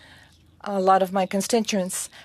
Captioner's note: speaking french